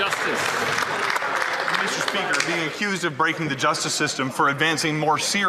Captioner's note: some Applause